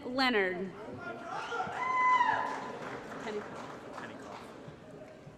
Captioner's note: applause & Cheering